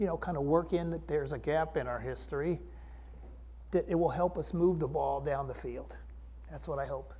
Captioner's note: deeper voice